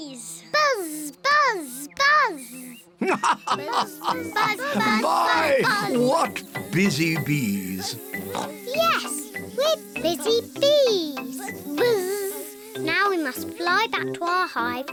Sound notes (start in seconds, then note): 2.7 laughs; 7.4 oinks